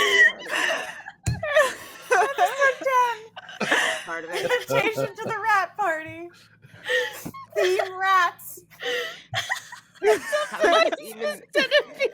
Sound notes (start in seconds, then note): 0.0 all laughing; 9.2 all laughing